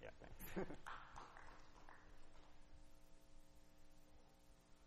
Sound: applause

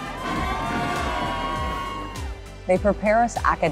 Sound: people cheer

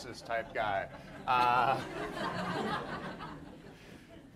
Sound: audience laughs

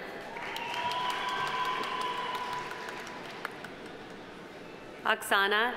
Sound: audience applauding; audience cheering

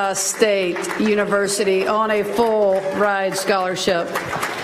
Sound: applause

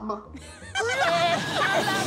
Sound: laughing

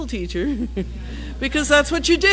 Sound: laugh

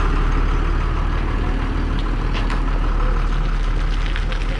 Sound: applause

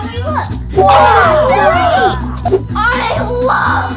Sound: all exclaiming

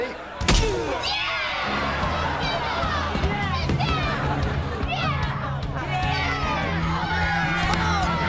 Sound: cheering

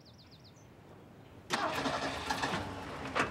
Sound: engine starting

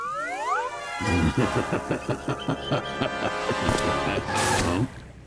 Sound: laughing

